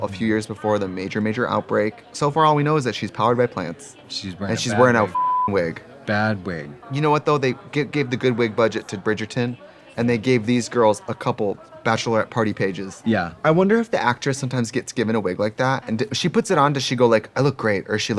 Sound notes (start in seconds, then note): 4.9 beeping